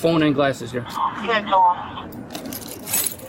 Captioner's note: radio chatter